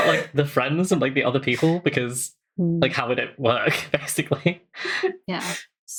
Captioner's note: laughs